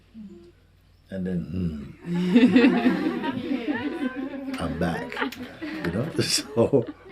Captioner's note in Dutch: gelach